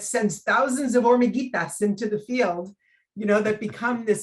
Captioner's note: speaking in foreign language